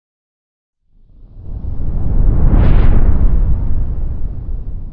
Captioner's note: whooshing sound